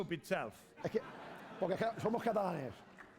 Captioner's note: laughter; speaking spanish